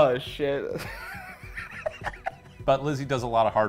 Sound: laughs

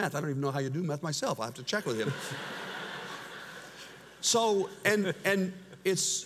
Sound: audience laughs

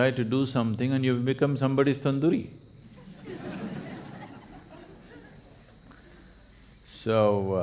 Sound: laughter

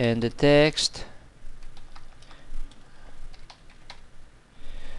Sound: typing

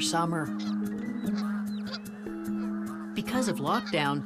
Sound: squawking

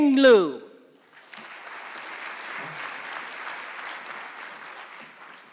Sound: audience clapping

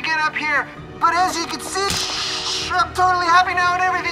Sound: mimicking static

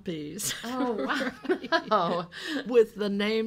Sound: laughing

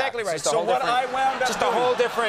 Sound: audience laughing

